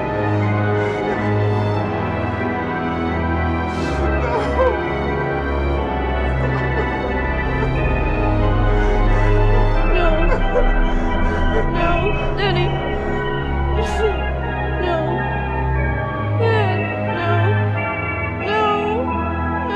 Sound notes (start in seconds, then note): 0.2 frightened breathing; 7.3 crying; 11.0 dad crying; 13.5 crying